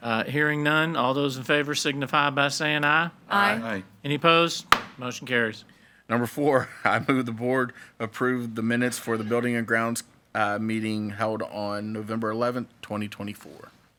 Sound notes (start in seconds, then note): 4.7 gavel bangs